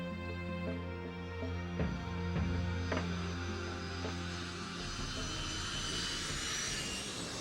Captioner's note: somber instrumental music; plane engine whirring; uptempo drum music